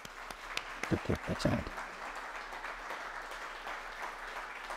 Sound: audience applauding

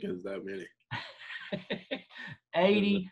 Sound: laughter

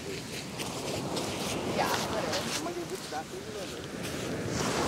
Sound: footsteps in the wet sand

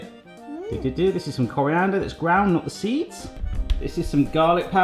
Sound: hums

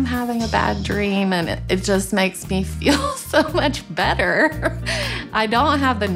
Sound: laughs

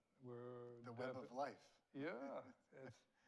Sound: laughs

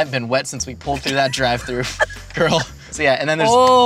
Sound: laughing

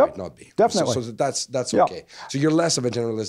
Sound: voiceover

